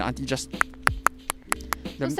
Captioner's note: scissors imitation